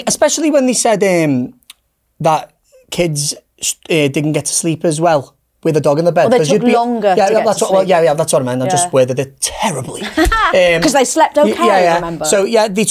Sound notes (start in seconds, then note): 10.0 laughs